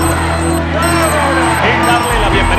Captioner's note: shouts and cheers